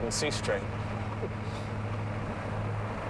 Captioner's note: laughs